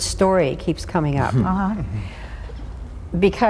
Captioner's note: chuckling